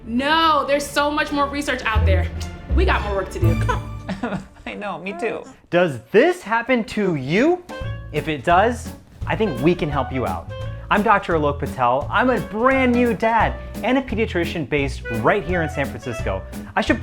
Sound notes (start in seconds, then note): 4.6 imitates baby; 4.8 baby crying